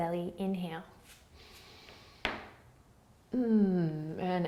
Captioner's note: inhaling